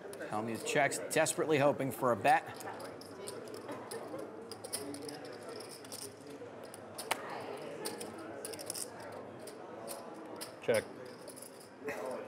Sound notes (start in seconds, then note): 4.4 rattling of poker chips